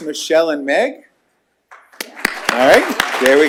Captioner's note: applause